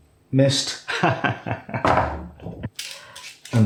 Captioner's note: laffs